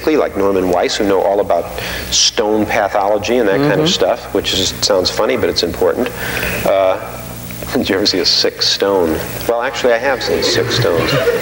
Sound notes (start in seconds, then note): 6.9 chuckling; 10.2 audience laughing